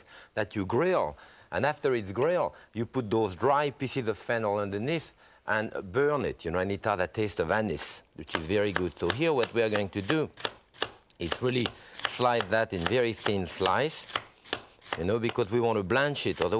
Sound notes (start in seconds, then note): 10.2 knife slicing